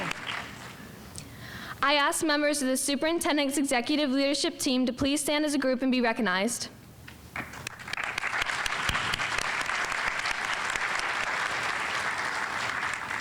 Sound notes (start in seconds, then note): 0.0 audience applauding; 7.4 audience applauding